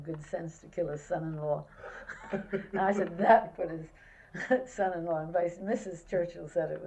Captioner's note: laughter